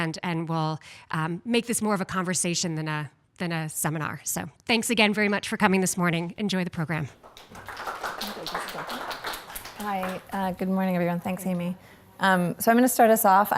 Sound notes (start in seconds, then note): 7.2 audience applauds